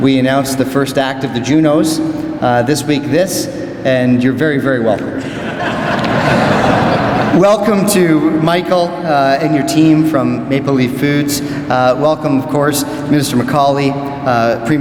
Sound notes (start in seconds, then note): 5.2 crowd laughs